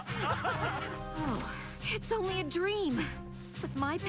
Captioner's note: laughter